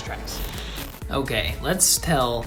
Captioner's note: static